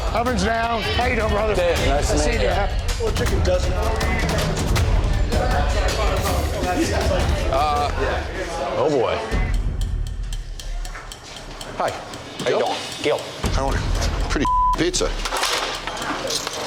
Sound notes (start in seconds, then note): 2.9 patrons chattering; 9.1 intense music; 14.4 beep